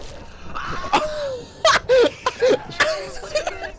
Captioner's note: laughing